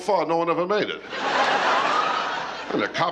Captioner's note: laughter